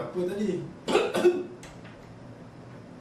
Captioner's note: coughing